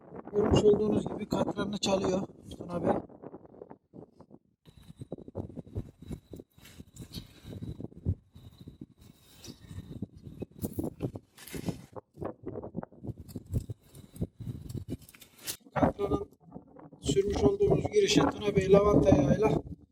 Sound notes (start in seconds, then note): 4.1 wind rustling sounds